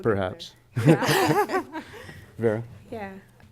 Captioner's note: laughter